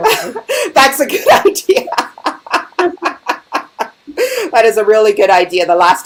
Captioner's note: laughing